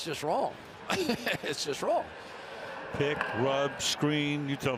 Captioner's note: laughs